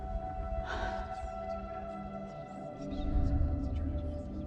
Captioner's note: whispering